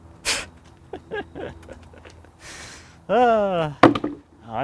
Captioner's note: laughing